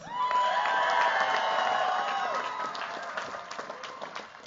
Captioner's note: cheers, applause